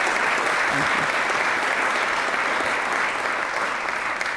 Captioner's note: applause